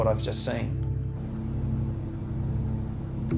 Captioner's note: camera whirring